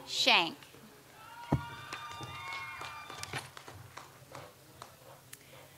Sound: audience applauds

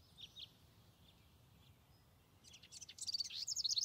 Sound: birds chirping

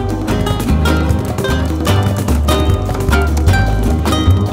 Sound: keyboard clacks

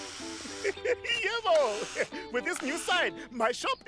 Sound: chuckles

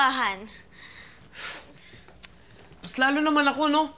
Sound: sighs, clicks tongue

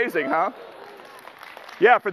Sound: applause

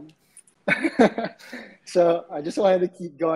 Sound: laughs

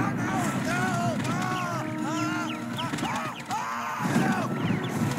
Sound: screaming

